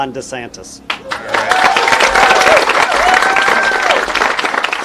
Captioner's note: people applauding